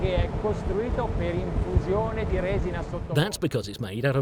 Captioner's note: speaks Italian